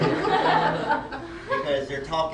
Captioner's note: laughter